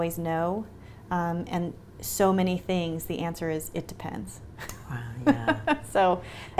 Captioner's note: laughs